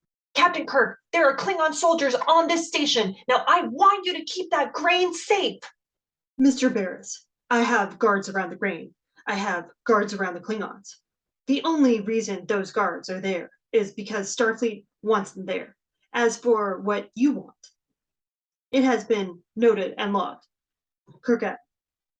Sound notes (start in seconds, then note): 6.5 speaking to communicator